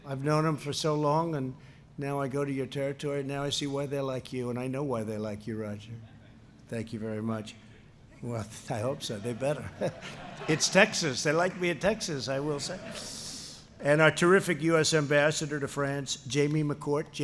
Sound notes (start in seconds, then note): 9.0 laughter